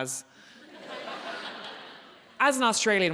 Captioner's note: audience laughing